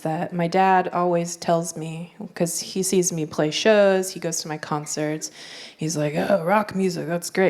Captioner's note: gruff voice